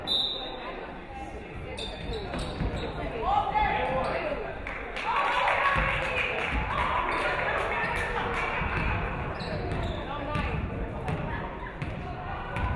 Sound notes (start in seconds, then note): 0.0 referee whistles; 4.6 audience clapping; 5.0 audience cheering